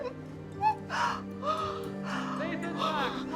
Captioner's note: Elizabeth whimpering